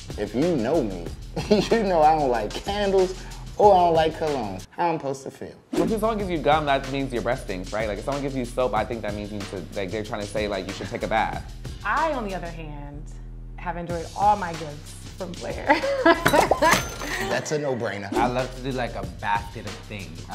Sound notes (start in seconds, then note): 16.8 laughs